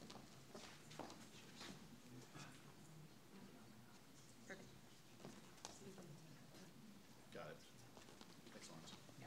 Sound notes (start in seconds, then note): 1.3 faintly speaking; 5.5 faintly speaking